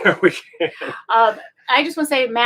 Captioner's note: both laughing